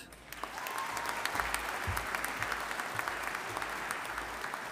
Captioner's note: audience applauding